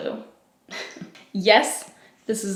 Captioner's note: giggles